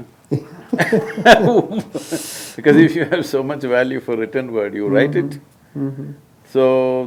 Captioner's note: both laugh